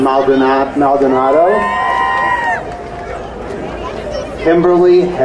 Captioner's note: crowd cheering